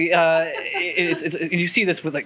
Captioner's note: interviewer laughs